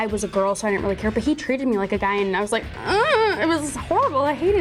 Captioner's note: noise of discontent